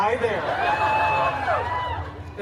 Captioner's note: guests cheering and laughing